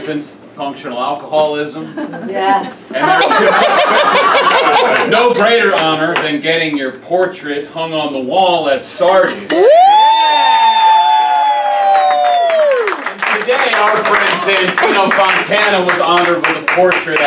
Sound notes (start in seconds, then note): 3.0 laughs; 9.5 cheers; 11.6 claps